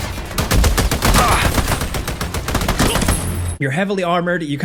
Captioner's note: enemy grunting; guns blasting; soldier grunting